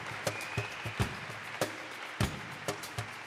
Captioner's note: applause